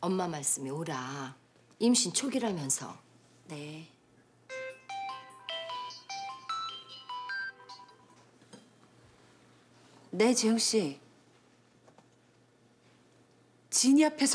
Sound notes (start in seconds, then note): 4.5 cell phone ringing